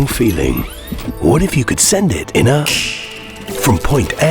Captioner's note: metallic fingersnap sound